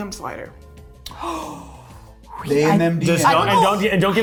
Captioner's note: gasping